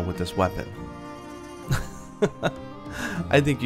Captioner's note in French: rire